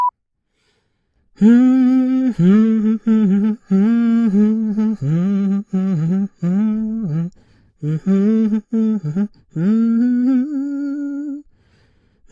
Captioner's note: hums " "